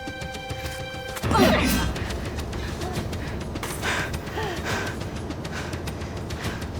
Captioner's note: knife slings; speakers grunt